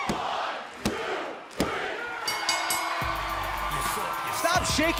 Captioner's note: bell ringing